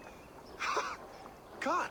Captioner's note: laugh